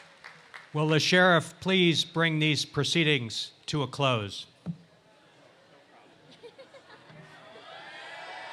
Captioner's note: bang bang bang